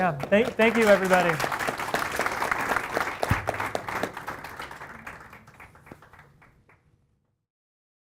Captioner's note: applause